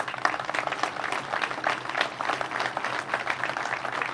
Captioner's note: crowd applauds